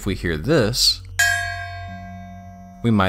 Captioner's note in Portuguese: Ruído de metal